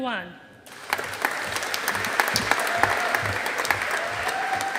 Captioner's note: audience applauding